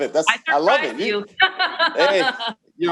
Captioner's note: laughs